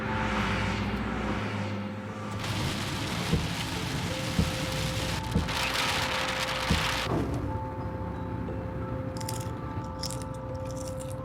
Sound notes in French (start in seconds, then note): 5.8 forte pluie contre le pare-brise; 9.3 craquement